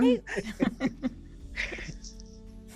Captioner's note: laughter